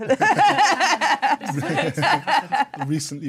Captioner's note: laughing